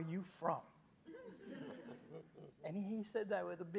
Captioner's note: audience chuckling